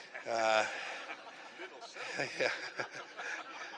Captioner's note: laughter